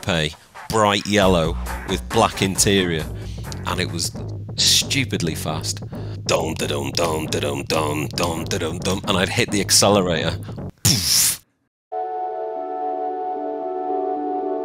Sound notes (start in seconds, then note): 6.1 imitates bassline bumping; 11.9 calm music